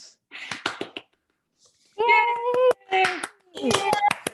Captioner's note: group applauding